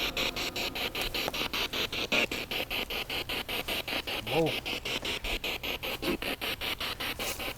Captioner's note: noise of the spiritbox in the background